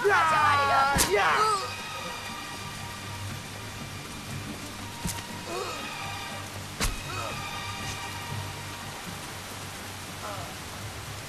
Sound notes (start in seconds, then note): 0.4 shouting; 1.7 grunts